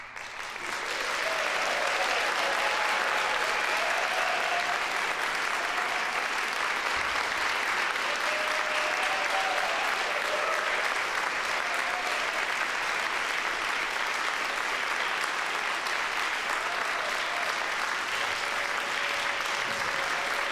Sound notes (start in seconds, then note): 0.1 applause, cheering; 8.1 applause